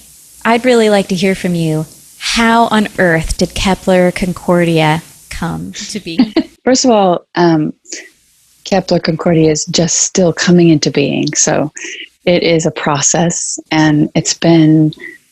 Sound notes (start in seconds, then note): 6.0 laughs